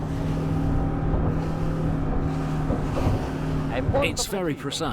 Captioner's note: engine revs